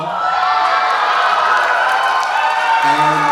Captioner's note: applause